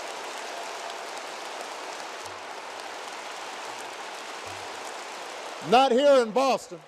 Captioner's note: applause